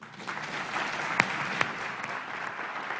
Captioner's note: applause